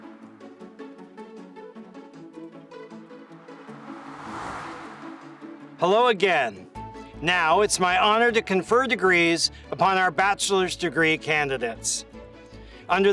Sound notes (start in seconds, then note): 0.3 upbeat music; 3.0 air whooshes